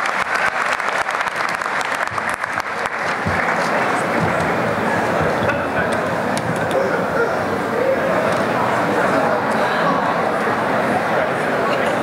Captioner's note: applause; crowd murmurs